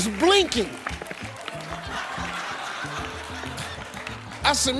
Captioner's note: audience laughing